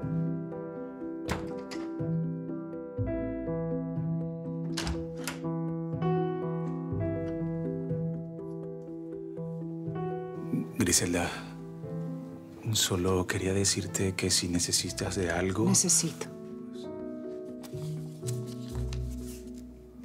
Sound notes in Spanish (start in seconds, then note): 1.2 Sonido al cerrar la puerta